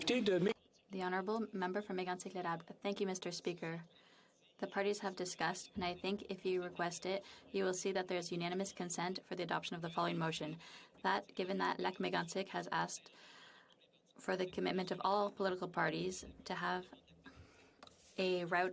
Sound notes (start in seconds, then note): 12.0 speaking French